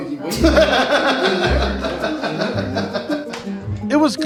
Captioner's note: laughter